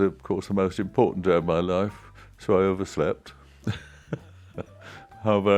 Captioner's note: laughs